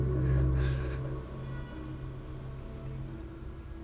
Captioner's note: Jez sobbing